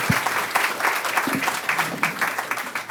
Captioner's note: applause